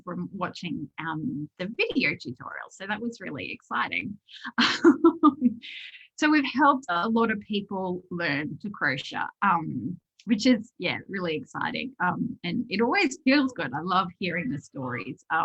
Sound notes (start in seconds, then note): 4.4 laughs